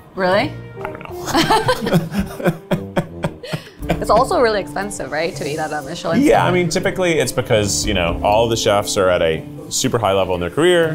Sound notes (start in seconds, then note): 0.9 both laughing